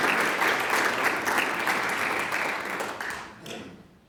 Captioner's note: applause